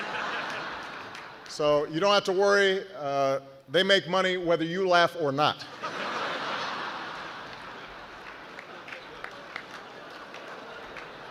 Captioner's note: laughter